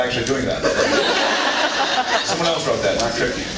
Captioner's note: laughs